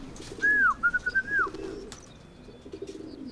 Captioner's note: whistling